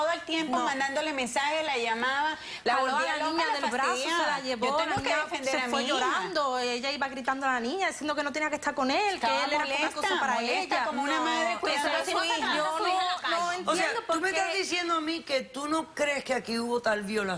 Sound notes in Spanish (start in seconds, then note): 12.6 Comentarios al unísono